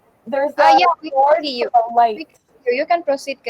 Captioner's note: chatter